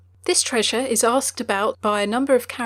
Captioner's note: voiceover